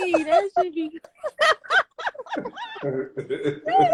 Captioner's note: laughing